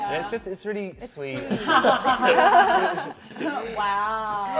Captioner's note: laughter